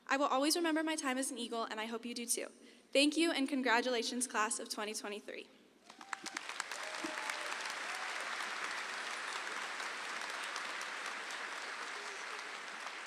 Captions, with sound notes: I will always remember my time as an eagle, and I hope you do too. Thank you and congratulations, class of 2023. (audience applauds)